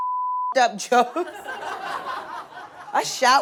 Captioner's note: audience laughs